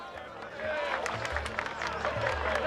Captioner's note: applause and cheering